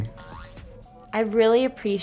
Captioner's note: boing